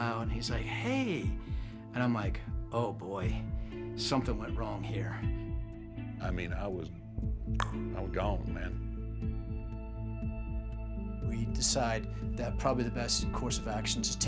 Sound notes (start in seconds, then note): 7.3 click